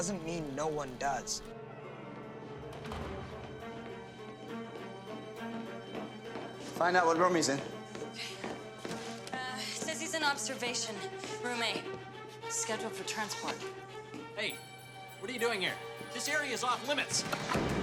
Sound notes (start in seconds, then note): 2.6 door closes